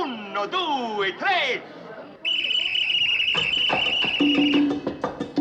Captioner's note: blows Whistle